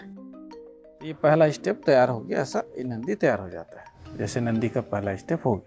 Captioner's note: speaking foreign language